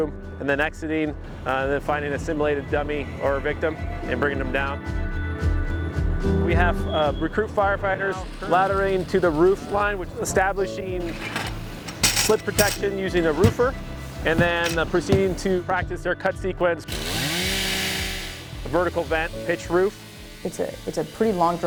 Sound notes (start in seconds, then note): 10.4 metal ladder clanging; 16.9 chainsaw cutting into wood